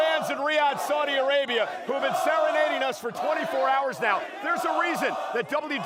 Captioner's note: chanting "michael cole"